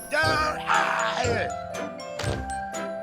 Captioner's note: grunting; calm music